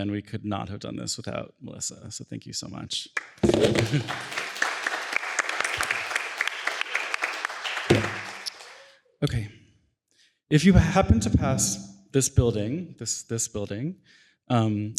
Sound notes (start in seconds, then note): 3.1 applause